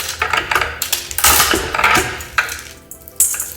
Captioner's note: nuts cracking